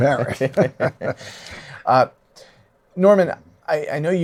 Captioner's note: laughs